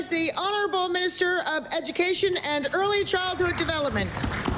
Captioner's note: applause